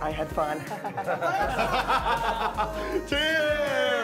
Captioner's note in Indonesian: Ketawa